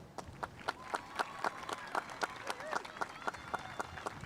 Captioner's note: spectators applauding